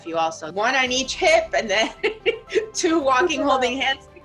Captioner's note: laughs